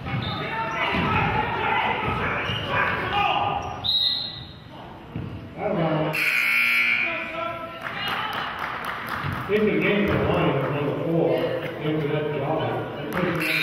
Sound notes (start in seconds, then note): 3.8 whistle blows; 6.1 buzzer honks; 7.8 clapping